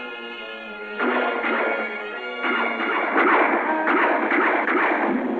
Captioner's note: gunshots